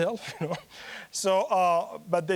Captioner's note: chuckling